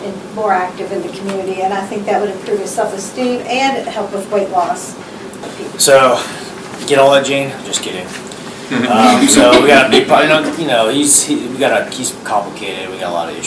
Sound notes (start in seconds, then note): 8.7 laughter